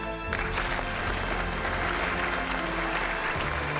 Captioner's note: clapping